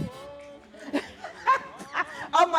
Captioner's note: laughter